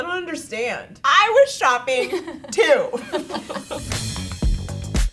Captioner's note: girls laughing; upbeat music